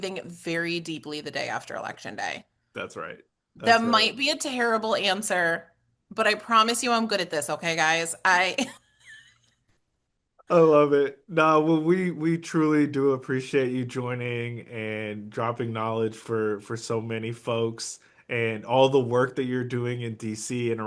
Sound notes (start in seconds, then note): 8.4 laughs